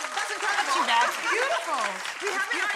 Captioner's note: audience applauding